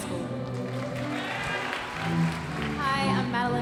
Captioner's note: audience applauding